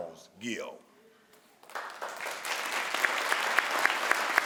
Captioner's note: crowd applauds